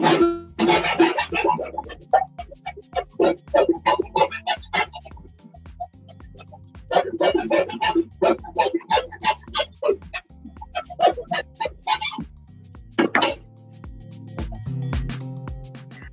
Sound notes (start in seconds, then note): 0.6 filing